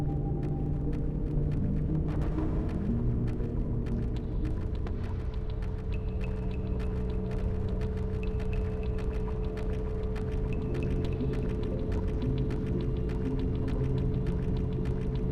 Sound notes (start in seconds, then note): none